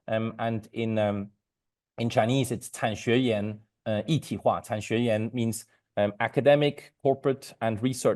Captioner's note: speaking Mandarin